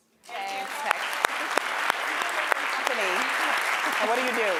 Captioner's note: audience applauding